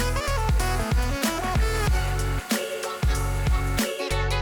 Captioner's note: saw blade whirs